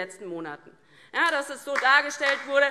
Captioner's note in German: Beifall DIE LINKE